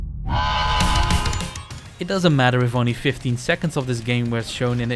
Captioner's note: honking intensifies